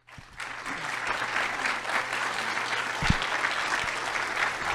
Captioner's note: audience applauding